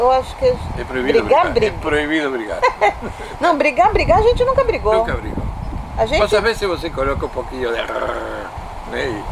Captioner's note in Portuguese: risos